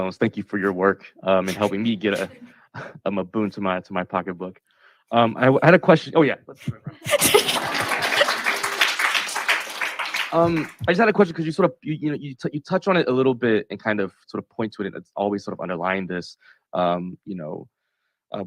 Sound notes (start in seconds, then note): 6.7 laughs; 7.2 audience cheers